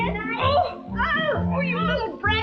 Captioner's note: groaning